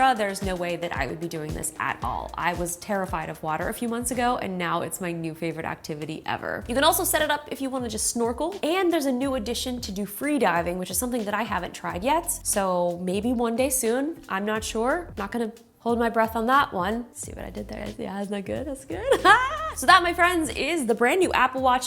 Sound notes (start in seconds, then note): 19.0 laughs